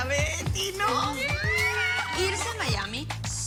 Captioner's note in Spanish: Exclamaciones